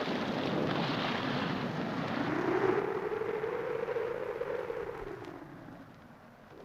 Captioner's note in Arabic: صوت الرعد; هدير الريح